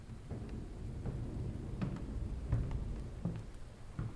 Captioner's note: thunder rolling